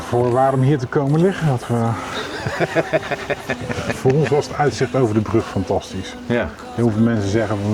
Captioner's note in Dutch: gelach